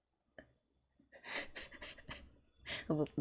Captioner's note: laughs